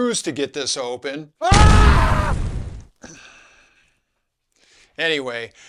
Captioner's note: explosion